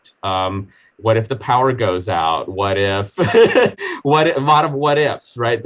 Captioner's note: laughing